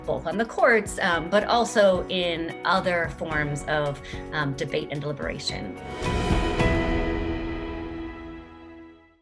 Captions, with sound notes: both on the courts, but also in other forms of debate and deliberation. (air whooshing)